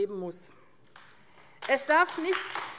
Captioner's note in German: Beifall AfD